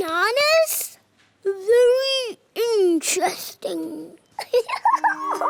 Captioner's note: giggles